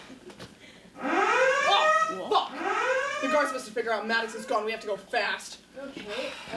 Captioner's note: alarms sound